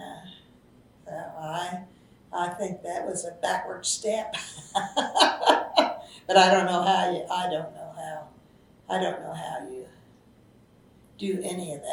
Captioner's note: laughs